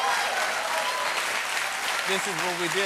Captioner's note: applause